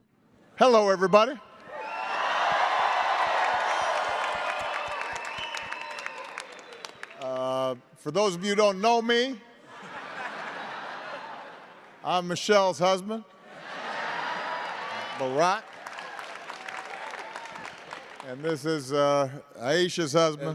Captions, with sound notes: [ APPLAUSE ] >> Hello, everybody. [ CHEERS AND APPLAUSE ] For those of you who don't know me --